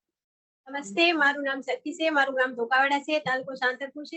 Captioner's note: non-english speech